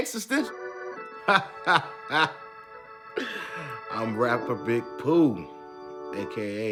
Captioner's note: laughing